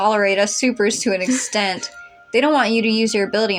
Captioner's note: chuckle